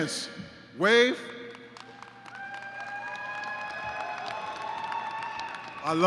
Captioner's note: shouting, applause